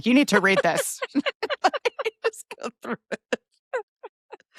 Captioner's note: both laughing